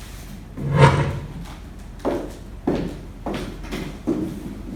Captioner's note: wood scraping